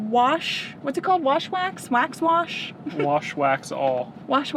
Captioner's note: laughs